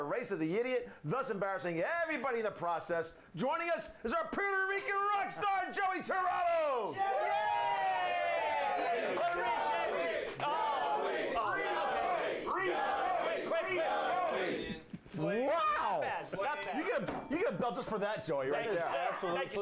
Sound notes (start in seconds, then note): 7.5 audience cheering; 16.6 bell rings